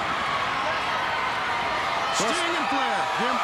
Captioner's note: crowd cheering